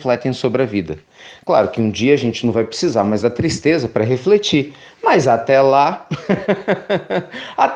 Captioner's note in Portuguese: risos